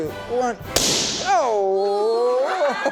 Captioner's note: balloon explodes; children laughing; laughing